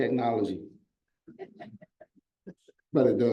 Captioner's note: audience members laugh